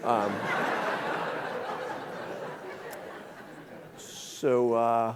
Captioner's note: audience laughing